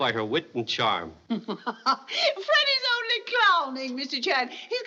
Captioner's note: chuckles